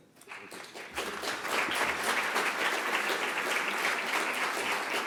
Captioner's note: applause